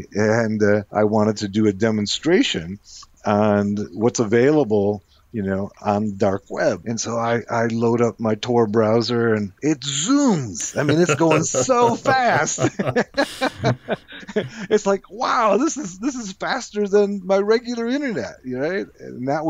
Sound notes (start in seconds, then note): 12.8 both laughs